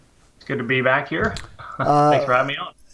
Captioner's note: laughing